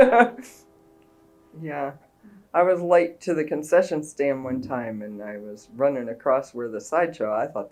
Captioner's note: laughs